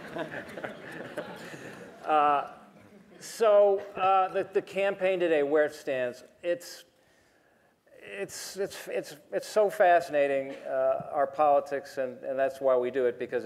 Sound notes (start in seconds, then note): 3.9 laughter